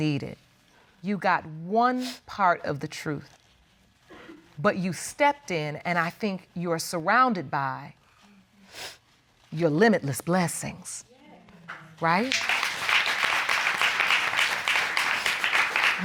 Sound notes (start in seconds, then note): 8.3 sniffles; 12.1 audience applauding